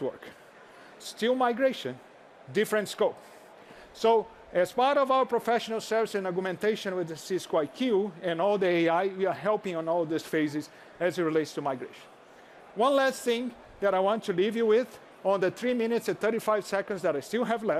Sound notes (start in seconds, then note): none